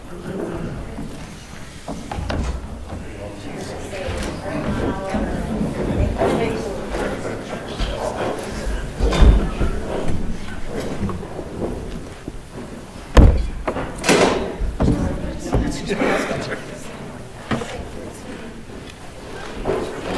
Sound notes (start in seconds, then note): 0.1 rustling, movement, talking; 5.1 rustling and movement